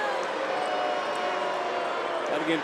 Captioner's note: crowd booing